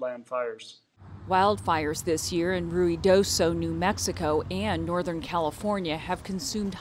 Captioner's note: voice-over